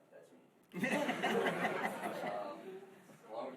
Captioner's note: laughing